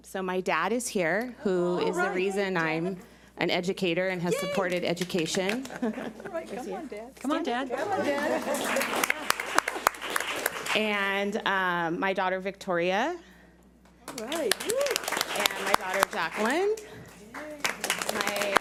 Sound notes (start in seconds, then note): 8.0 audience applauds; 14.1 audience applauds